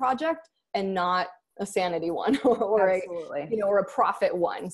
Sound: laughs

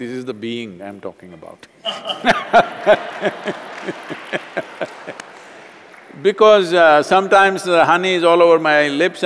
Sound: laughter

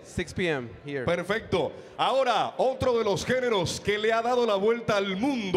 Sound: MC speaking in Spanish

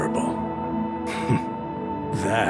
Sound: laughs

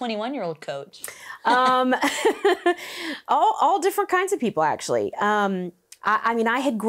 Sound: laughs

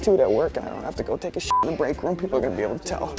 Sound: beep

